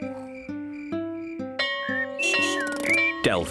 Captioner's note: bell rings